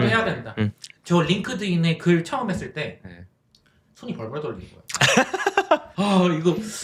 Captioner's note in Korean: 웃음